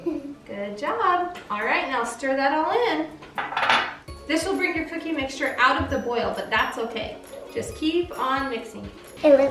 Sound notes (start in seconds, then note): 0.0 soft giggle; 3.4 glass clinking